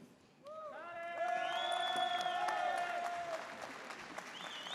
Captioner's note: audience cheers